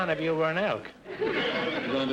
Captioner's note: audience laughter